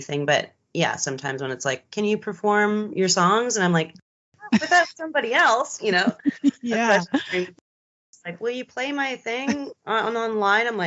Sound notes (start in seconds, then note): 5.8 giggles; 5.9 both laughing